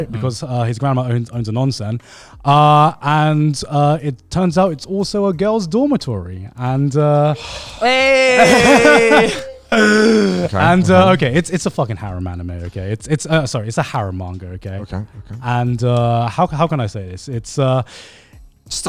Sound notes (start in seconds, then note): 7.3 sighs